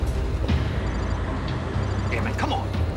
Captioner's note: cell phone rings